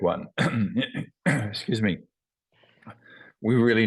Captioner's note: cough